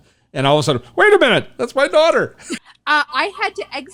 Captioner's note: laughs